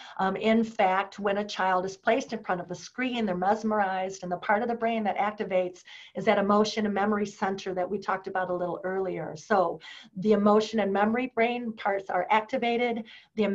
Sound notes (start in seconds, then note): none